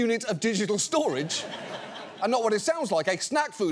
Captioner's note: audience laughs